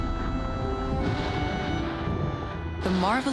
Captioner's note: thunder booming